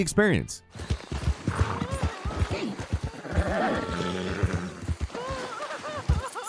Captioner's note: woman wailing; footsteps thumping